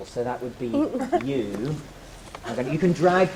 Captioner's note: giggle